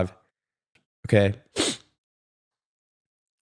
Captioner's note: sniff